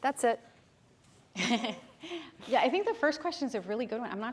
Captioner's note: chuckles